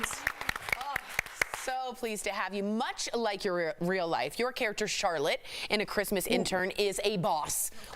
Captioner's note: applause